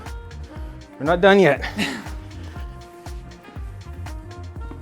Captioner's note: laughing